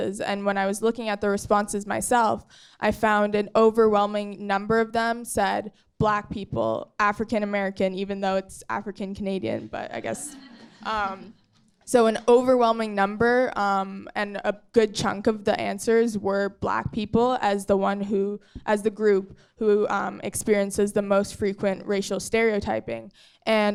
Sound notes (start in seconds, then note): 10.2 audience chuckling